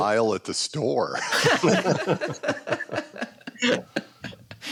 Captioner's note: laughter